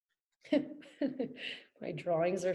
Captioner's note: laughs